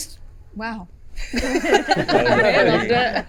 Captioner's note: laughing